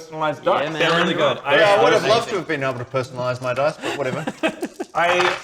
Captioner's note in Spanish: Indignado